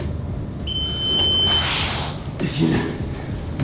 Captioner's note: beeping